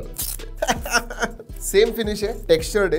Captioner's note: laughs